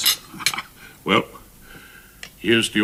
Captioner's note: Rumpole chuckles